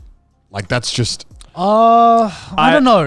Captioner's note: exclaiming hesitation